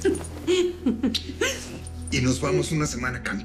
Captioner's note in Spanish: Ríe; Ruido de beso